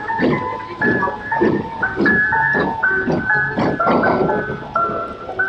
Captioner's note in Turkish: Tren demir tekerlerinin raylardaki ritmik gürültüsü